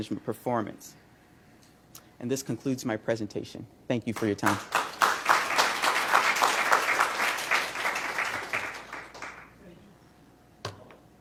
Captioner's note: applause